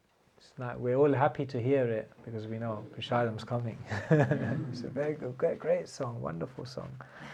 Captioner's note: laughter